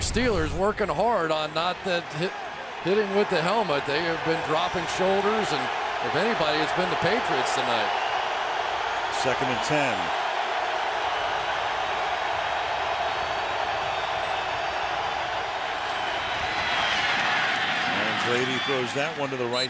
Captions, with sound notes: And if anybody, it's been the Patriots tonight. Second and 10. [crowd cheering] And Brady throws that one to the right side. And Welker, again, makes the catch. This time, at the 39-yard line.